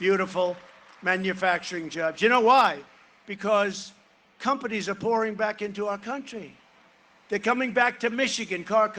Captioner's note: cheering and applause